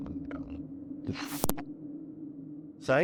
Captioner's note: eerie hollow sound